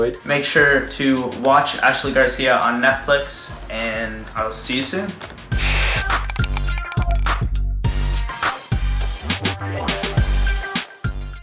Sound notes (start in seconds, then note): 4.3 funky music; 5.5 spray paint can hissing